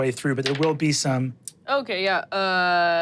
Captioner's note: dice rolling